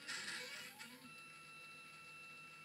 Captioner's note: motors slewing